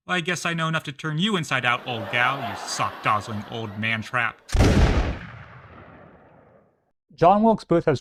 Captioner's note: bang